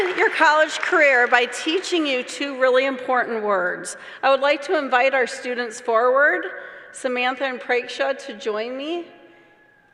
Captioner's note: applause